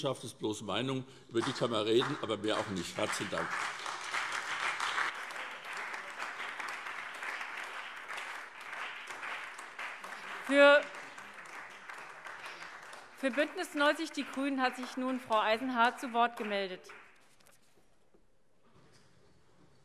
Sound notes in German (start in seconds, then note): 3.9 Beifall